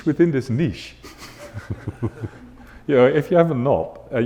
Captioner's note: audience laughing